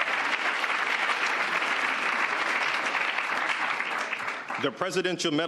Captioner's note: cheers and applause